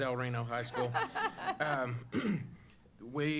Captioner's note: laughter